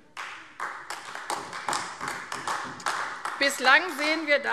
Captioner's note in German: Beifall AfD